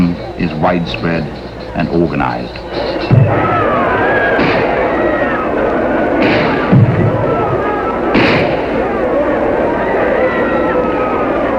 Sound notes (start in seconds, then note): 4.8 guns firing; 4.8 people shouting